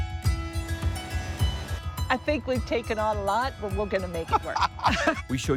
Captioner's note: laughing